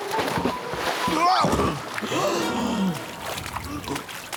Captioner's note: grunts